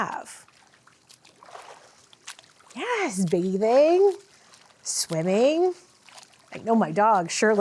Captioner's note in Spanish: salpicaduras de agua